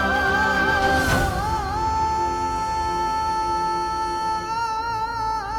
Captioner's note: emotional vocalising